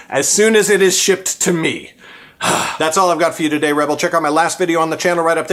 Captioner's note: sigh